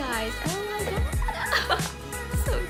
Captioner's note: giggles